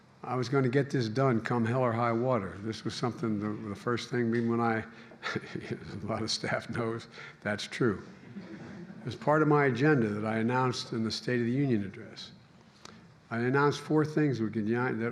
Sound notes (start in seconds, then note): 5.4 laughs; 8.0 laughter